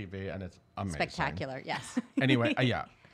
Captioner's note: giggles